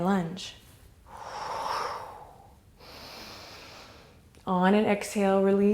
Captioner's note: deep breath